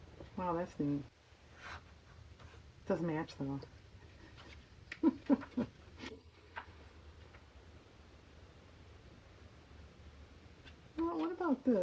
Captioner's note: laughs